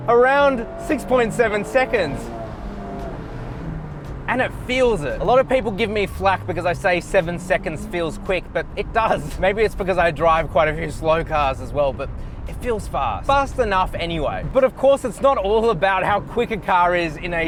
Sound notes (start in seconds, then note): 2.1 engine roaring